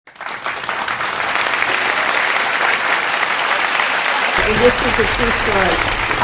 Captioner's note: applause